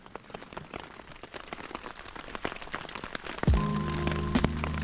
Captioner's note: rain